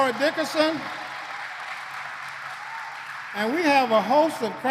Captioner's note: applause